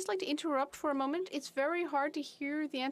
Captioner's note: speaking French